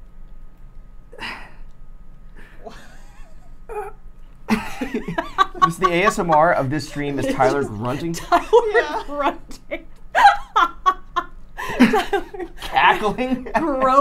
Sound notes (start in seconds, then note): 4.1 grunting; 9.0 laughing